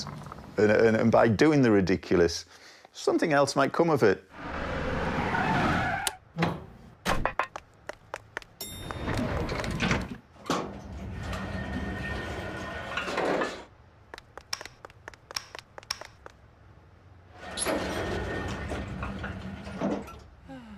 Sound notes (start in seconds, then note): 4.4 car driving- screeches to a halt; 6.6 ding of the elevator bell; 7.3 footsteps; 10.7 scraping metal as building lowers; 14.1 footsteps and click of lights being turned on; 17.3 scraping metal as building rises